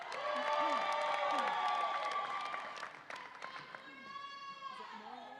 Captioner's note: audience applauds and cheers